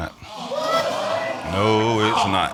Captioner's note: audience exclaiming